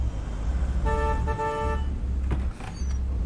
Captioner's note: horn honks